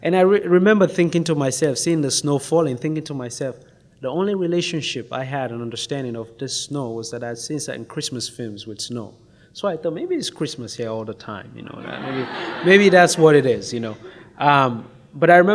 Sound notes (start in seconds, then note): 11.6 audience laughs